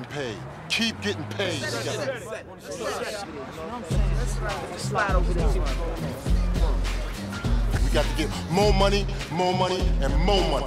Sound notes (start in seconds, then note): 1.3 murmuring; 3.6 hip-hop music